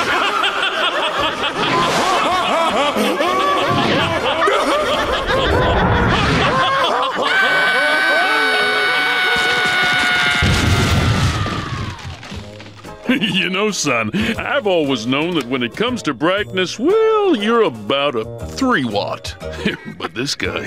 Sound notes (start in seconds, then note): 0.0 laughing; 7.1 screaming